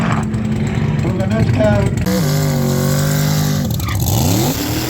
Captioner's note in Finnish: Moottorin ääntä